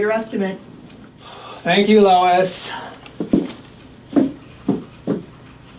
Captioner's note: sighs